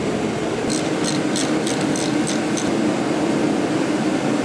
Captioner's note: ratchet clicking